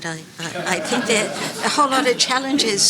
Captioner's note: audience laughing